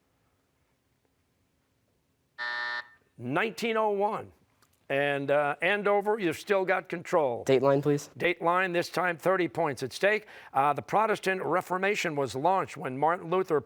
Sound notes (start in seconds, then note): 2.4 buzzer